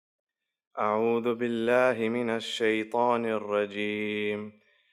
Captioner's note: prays in foreign language